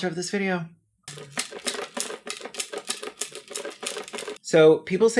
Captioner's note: life savings rattle